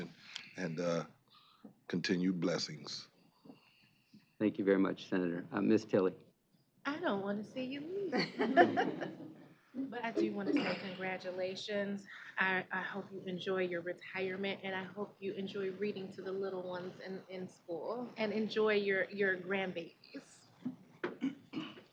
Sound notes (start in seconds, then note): 8.0 chuckling